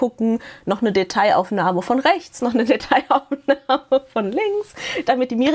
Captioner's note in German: gelächter